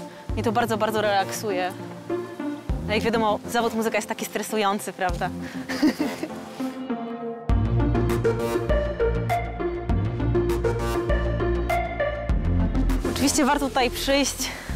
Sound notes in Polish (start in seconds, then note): 5.6 śmiech